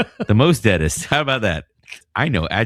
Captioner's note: uh